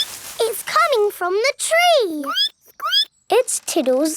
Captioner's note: squeak; squeaking